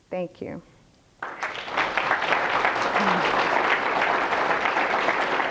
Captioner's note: applause